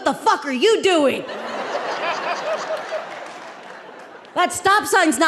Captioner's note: audience laughing